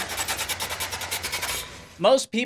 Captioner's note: car whining